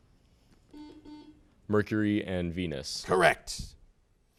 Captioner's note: buzzer sounds